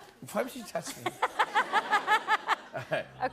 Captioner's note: laughs